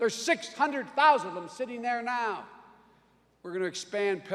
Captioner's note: none